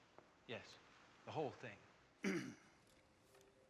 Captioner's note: clears throat